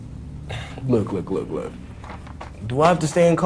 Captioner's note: sighing